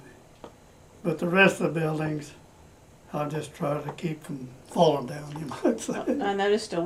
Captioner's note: laughs